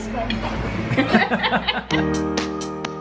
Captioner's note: all laughing; uplifting music